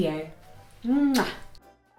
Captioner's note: kiss